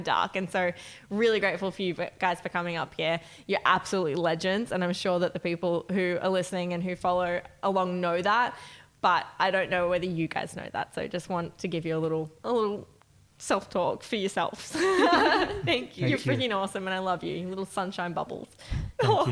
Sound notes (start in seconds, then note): 16.0 laughing